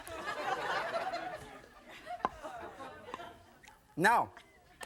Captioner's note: audience laughing